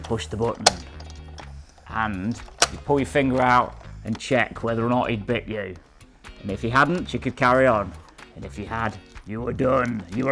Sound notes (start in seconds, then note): 0.6 button clicks